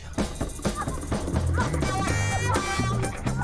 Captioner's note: woman moaning